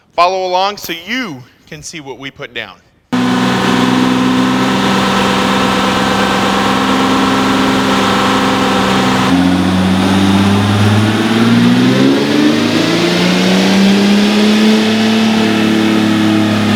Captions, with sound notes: Follow along so you can see what we put down. [ENGINE REVVING] [ACCELERATING]